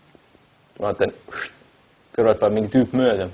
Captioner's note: phew